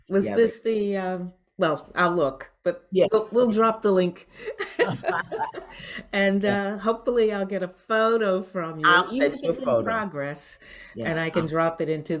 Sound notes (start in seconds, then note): 4.5 both laugh